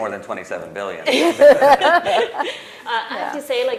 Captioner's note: laughter